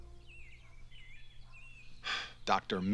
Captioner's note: sighs